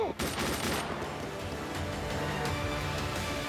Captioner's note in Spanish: Disparos